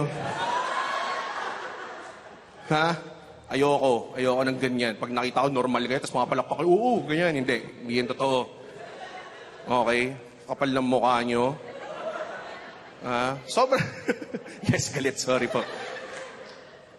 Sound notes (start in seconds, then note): 0.1 laughter; 11.8 chuckling; 14.1 laughs